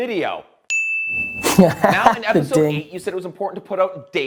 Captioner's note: bell ringing